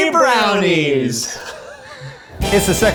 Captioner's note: laughs